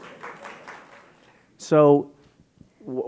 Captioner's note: scattered applause